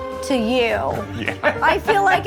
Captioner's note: laughs